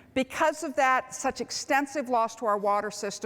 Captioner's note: none